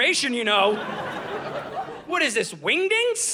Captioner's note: audience laughing